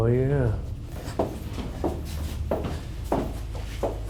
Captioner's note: shoes clacking